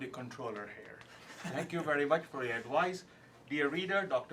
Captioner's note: laugh